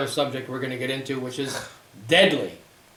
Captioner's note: scoffs